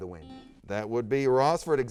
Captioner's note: buzzer sounds